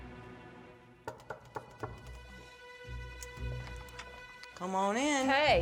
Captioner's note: knocking